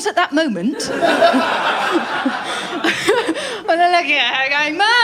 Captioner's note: laughter